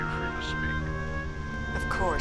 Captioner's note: voice On Phone